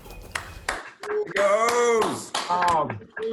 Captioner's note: applauding